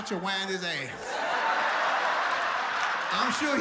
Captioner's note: audience laughs